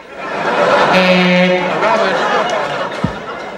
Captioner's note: buzzer sound